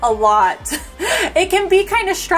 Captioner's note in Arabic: تضحك